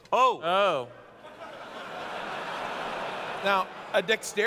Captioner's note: laughter